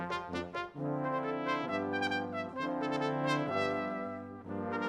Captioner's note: none